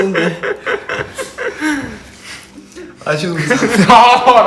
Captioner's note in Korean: 웃음